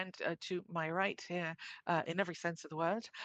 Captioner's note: speaking in French